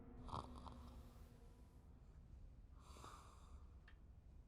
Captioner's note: snoring